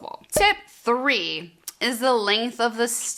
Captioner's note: cork popping